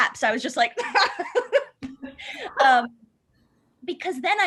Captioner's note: laughter